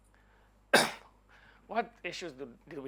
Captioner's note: coughing